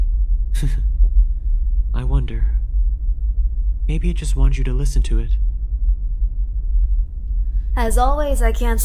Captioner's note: chuckles